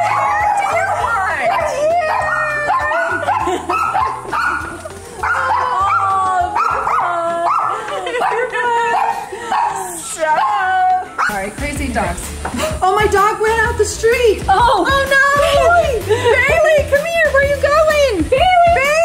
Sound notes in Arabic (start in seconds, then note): 3.4 يضحك